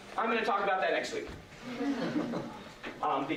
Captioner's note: laughter